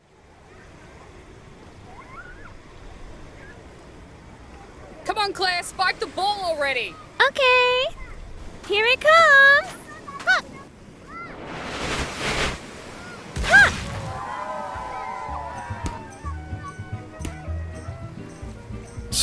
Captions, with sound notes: *Seaside ambiance* "Come on Claire! Spike the ball already!" "Okaaay~" "Here it comes!" "HA!" *Ball whooshes* "HAH!" *Audience cheers*